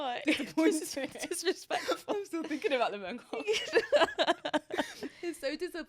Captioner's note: both laughing; both laughing